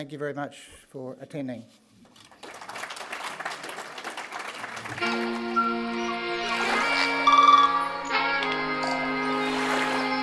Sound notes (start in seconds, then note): 2.1 audience applauds; 4.9 upbeat music